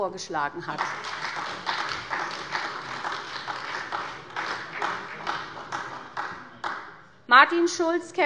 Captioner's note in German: Beifall bei der SPD